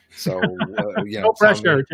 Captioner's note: laughs